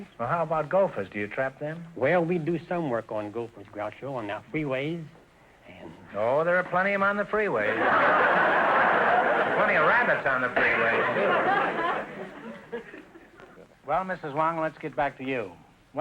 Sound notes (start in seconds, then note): 7.6 audience laughter